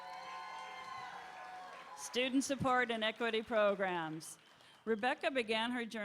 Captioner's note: applause